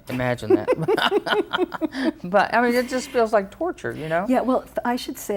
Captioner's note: laugh